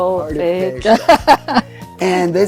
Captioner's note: laughing